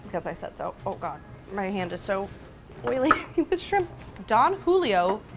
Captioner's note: laughs